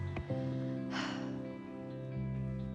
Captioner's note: sighs